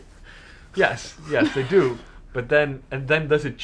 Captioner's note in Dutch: lach